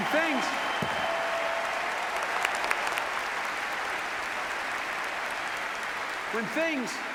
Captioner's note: applause